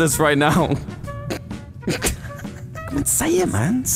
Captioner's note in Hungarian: nevetés